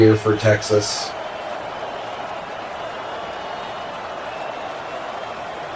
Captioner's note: crowd Noises